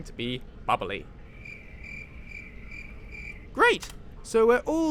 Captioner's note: crickets